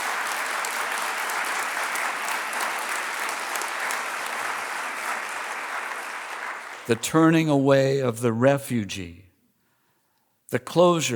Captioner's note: applause